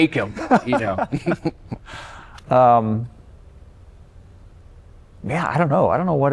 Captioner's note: laughter